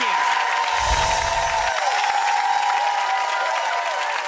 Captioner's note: applause